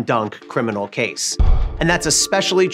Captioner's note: gavel slams